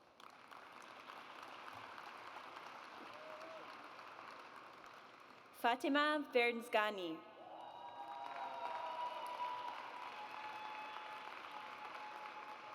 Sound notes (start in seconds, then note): 0.0 audience applauds; 7.4 audience cheers